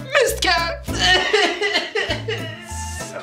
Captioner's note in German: Schluchzen